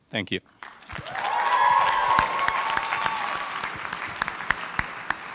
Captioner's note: cheering